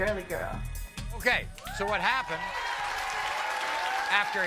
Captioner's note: audience cheering and applauding